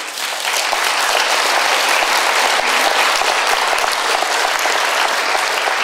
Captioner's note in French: Applaudissements